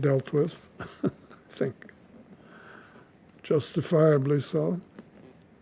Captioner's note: laughing